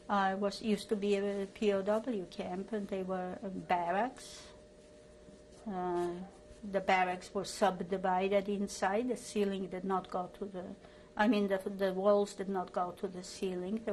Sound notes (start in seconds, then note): 3.9 pauses for 3 seconds